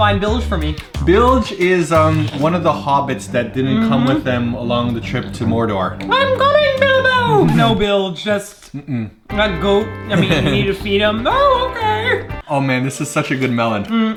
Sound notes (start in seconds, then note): 6.2 falsetto voice; 10.9 falsetto voice